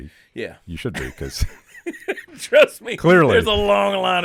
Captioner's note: laughing